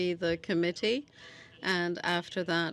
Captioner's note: speaking French